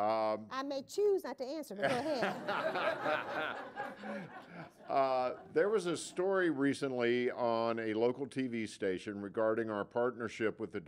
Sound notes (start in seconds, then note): 4.5 laughter